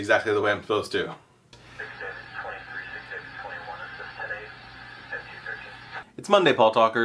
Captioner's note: sounds of police radio